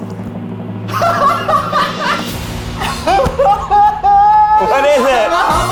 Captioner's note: drum roll; laughs hysterically